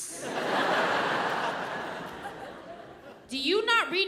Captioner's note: audience laughs